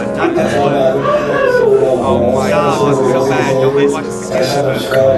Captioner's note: cries